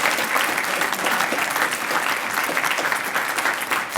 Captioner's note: applause